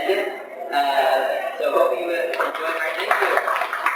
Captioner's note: applause